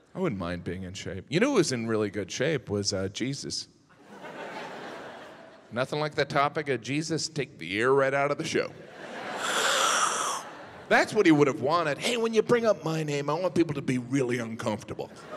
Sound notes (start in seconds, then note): 4.0 audience chuckles; 8.8 audience laughs; 9.5 slurps loudly